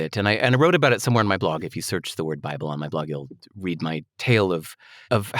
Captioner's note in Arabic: none